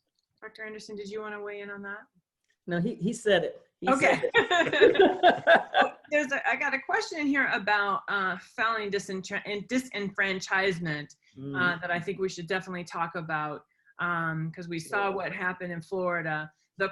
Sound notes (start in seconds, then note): 6.1 laughter